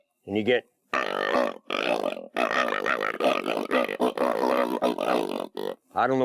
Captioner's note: hog calling